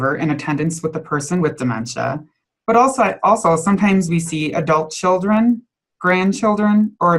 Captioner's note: none